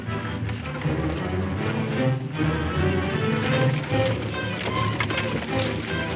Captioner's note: tense orchestral music; running hoof beats